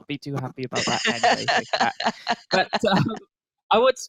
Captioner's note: laughs